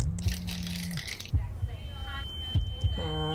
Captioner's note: crinkling plastic; high pitched ringing